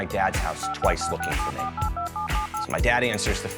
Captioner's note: phone buttons beeping